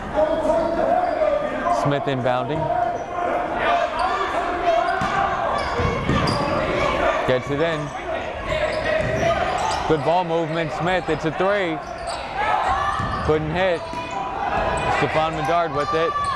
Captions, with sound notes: (yelling) Smith inbounding. (yelling) Gets it in. Good ball movement, Smith it's a three! Couldn't hit, Stephon Medard with it.